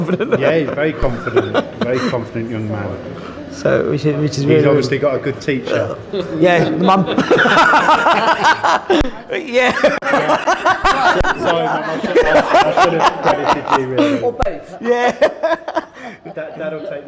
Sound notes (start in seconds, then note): 6.6 laughter; 9.6 more laughter; 15.4 laughter